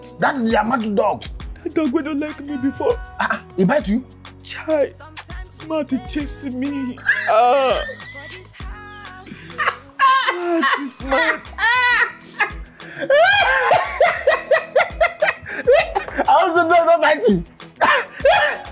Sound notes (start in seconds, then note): 7.4 Baba Gody laughs; 12.8 Baba Gody laughing